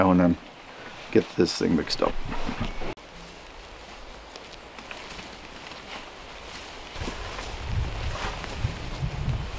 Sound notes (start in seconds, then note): 3.3 grass rustling